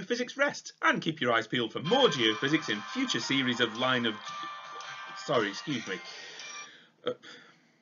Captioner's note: phone ringing